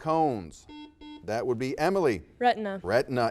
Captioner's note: buzzer beeps